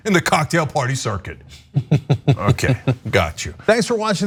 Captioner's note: laugh